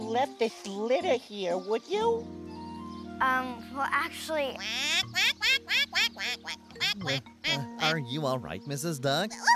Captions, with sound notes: WHO LEFT THIS LITTER HERE, WOULD YOU? UM... WELL, ACTUALLY... ( Quacking ) ARE YOU ALL RIGHT, MRS. DUCK?